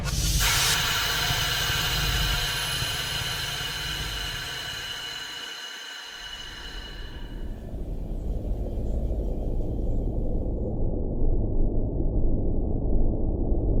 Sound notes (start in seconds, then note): 0.4 device whooshing; 8.2 eerie atmospheric music; 8.2 spaceship whirring